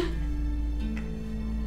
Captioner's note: crying softly